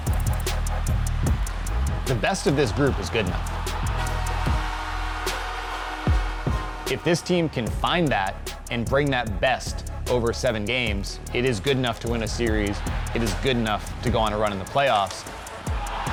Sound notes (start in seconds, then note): 0.2 upbeat music; 3.8 goal horn blowing; 4.6 fans cheering